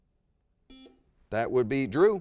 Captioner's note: buzzer rings